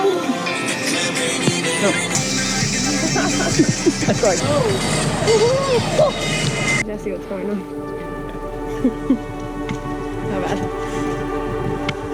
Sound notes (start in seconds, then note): 0.1 upbeat pop music; 8.5 laughs